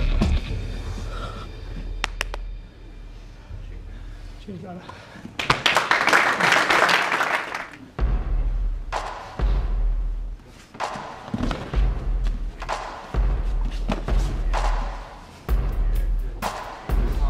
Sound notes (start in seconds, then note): 5.3 applauding; 8.1 soft intense music